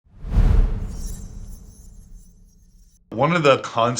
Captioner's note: graphic whooshing